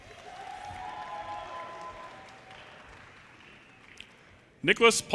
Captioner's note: audience cheers and applause